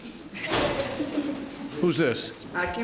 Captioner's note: laughing